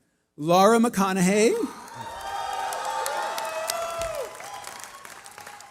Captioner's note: cheering